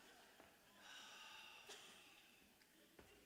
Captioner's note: Terri sighs